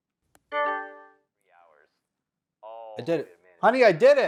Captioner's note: television pings